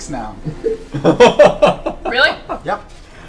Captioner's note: all laugh